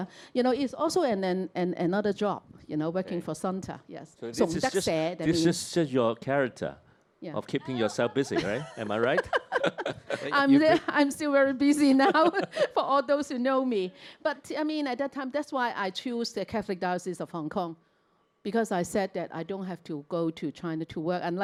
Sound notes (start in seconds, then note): 4.5 Cantonese; 7.6 laughter